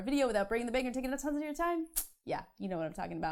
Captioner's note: clicks mouth